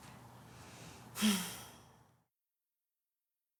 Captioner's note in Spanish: suspiro